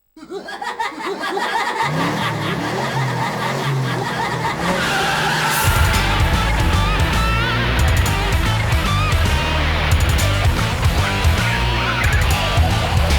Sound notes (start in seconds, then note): 0.2 evil clowns laugh; 1.9 engine revving; 4.8 tires screeching